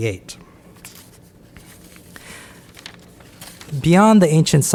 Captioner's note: papers rustling